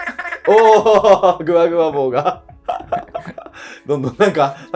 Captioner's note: laughing